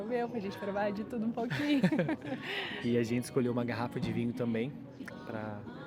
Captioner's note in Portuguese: risadas